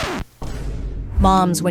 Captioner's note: air rumbles